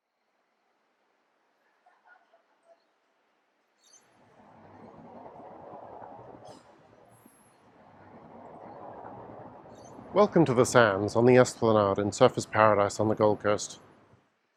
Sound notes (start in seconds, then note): 1.6 air whooshing; 4.6 deep ocean waves